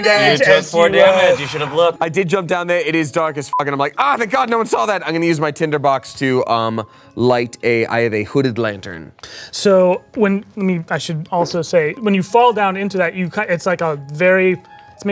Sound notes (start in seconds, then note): 3.7 beep